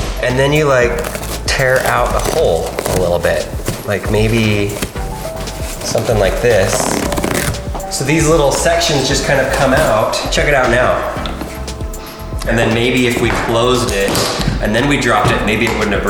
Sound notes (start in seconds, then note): 7.0 foam ripping